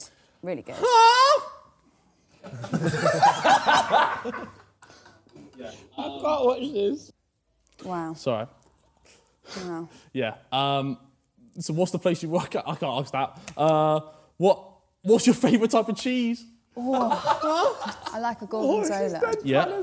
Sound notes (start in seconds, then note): 2.7 laughing loudly